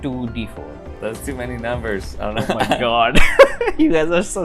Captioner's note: laughter